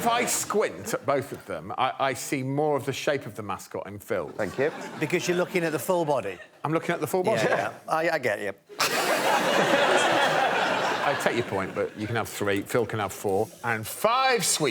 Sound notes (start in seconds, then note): 10.2 laughter